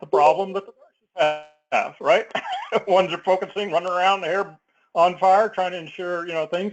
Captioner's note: laugh